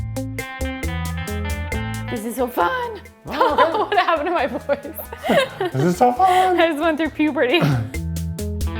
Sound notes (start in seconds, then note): 0.1 relaxing music; 3.2 laughing